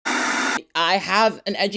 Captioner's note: screen buzzing